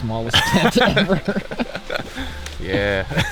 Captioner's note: both laugh